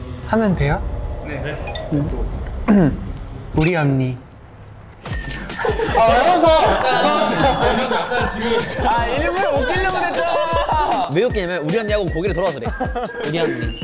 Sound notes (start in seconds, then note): 5.2 all cracking up